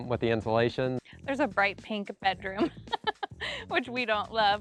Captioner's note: laughter